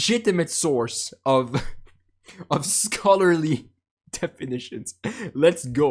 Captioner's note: chuckle